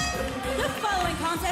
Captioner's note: bell ringing